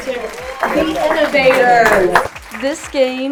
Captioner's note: crowd clapping